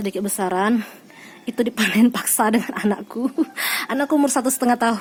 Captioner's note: laugh